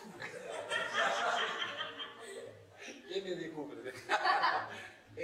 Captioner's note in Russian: смех